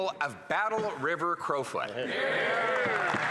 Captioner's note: some Applause